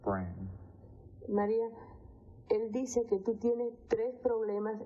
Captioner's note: woman speaking Spanish